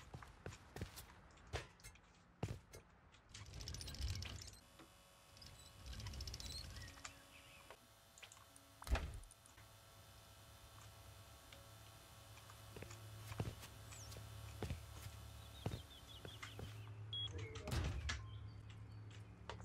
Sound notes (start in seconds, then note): 0.0 footsteps; 3.6 spotlight whirrs; 12.2 footsteps; 17.9 door slams